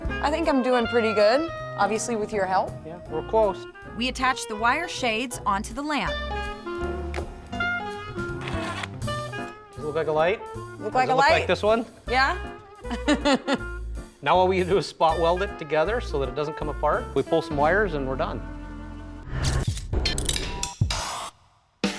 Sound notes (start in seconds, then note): 8.3 screwing; 12.8 chuckles